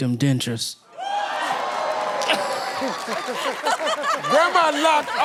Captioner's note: audience cheering